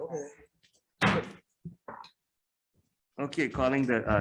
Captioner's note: gavel bangs